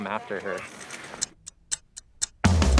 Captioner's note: ticking clock